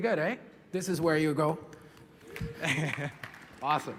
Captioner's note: applause